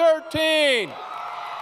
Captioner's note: crow Cheering & Applause